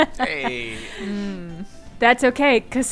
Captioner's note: laughs